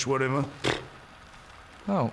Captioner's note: pfft